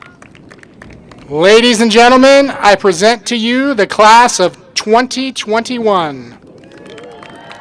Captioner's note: applause